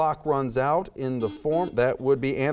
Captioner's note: buzzer beeps